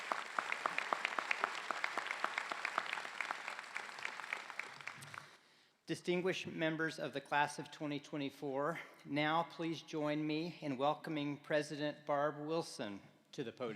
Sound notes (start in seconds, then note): 4.9 applause